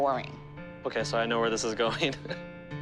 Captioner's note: chuckles